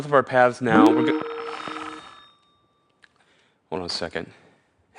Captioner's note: ringing noise